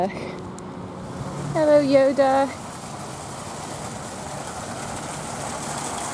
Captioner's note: water splashes